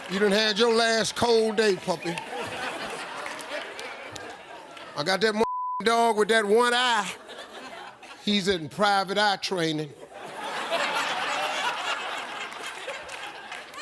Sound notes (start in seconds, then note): 3.0 audience laughs; 10.0 audience laughs